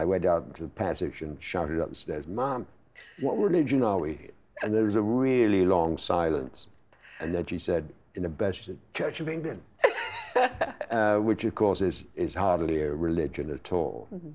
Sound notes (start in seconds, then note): 9.9 laughing